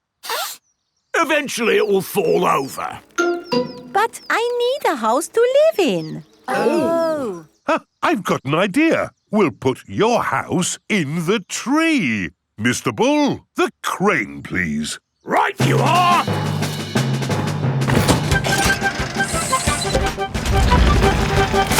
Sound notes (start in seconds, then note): 0.2 sniffs; 6.4 gasps